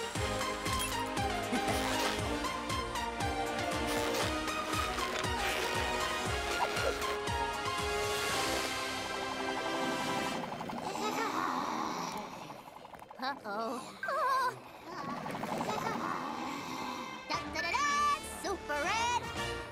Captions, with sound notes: (laughing) (groaning) - Uh-oh. Oh! - Da-da-da-da! Super Red!